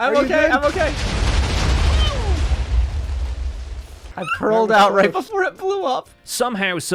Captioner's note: explosion